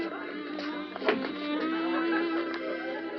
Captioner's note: door opens